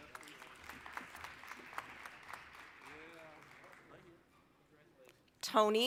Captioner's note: applause